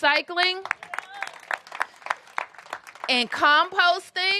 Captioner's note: applause